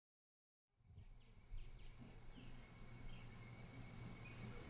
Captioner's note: birds chirping